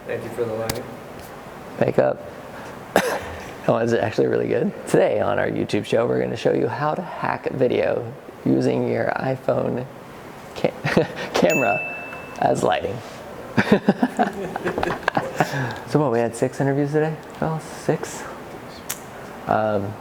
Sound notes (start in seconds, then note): 2.9 coughs; 10.2 laughs; 11.4 ding; 13.5 laughter